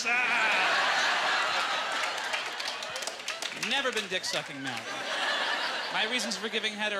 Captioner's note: audience laughter